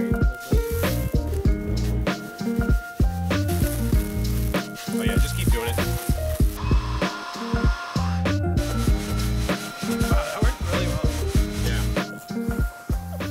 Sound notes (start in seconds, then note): 0.1 melodic music continues; 6.8 leaf blower buzzing; 8.6 seeds rustling